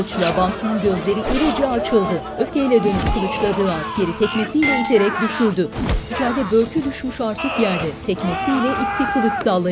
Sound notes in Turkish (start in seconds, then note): 0.7 Dövüş sesleri; 5.7 Dövüş sesleri; 8.1 Bağırma sesleri